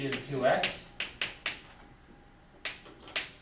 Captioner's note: none